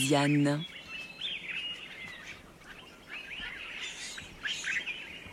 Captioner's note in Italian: cinguettii